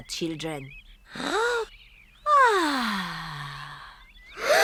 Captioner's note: breathes deeply; all breathe deeply